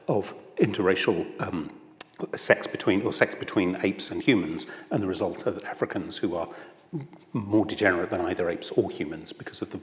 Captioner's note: none